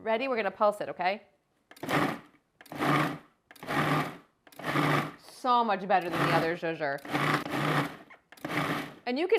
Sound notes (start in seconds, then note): 2.3 food blending; 6.9 food blending